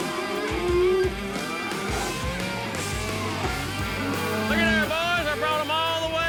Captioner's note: cows mooing